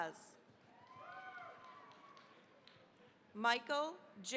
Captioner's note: cheering, applause